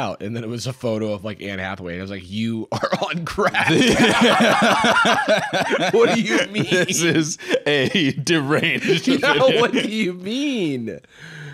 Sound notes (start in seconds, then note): 4.5 both laughing; 6.3 laughing